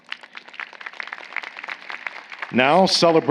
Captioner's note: applause